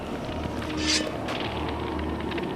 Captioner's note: sword unsheathed